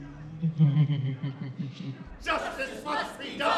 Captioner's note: demon laughing